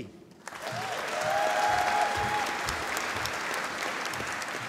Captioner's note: applause